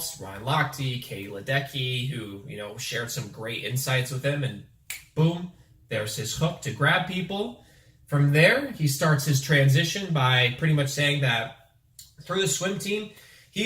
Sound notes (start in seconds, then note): 4.9 fingers snap